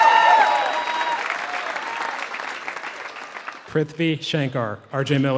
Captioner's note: applause